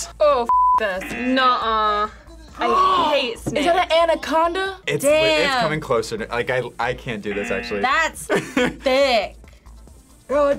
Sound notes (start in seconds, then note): 0.5 buzzer rings; 3.5 gasps